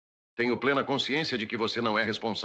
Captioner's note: none